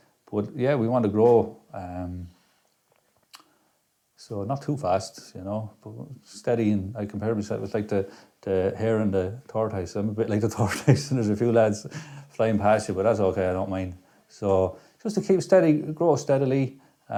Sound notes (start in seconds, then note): 11.2 laughs